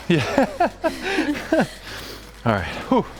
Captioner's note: laughing